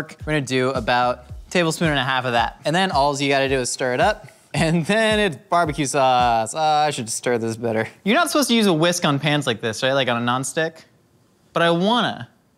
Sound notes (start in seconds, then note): none